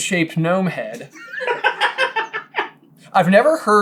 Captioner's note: giggling uproariously